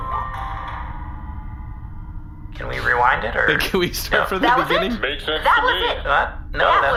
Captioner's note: laughing